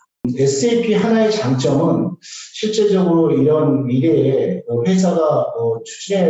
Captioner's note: speaking in foreign language